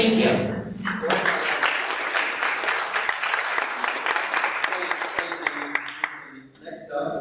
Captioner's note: clapping